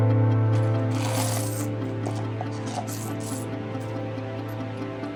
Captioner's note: coins Chinking